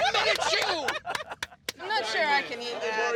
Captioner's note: both laughing; clapping